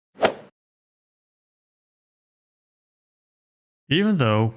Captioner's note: golf swing sound effect